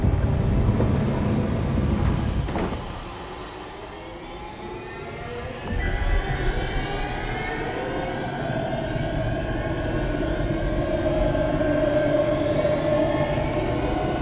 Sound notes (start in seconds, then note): 2.6 lid thuds; 3.5 eerie music